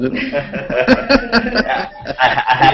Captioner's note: laughter